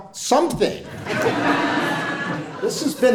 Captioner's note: audience laughing